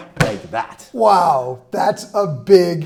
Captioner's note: giant gummy bear thuds